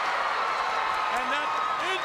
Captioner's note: crowd cheers